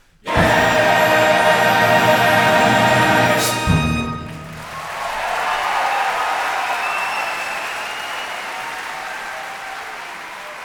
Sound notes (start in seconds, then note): 4.8 crowd cheering